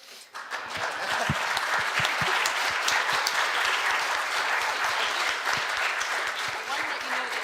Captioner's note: clapping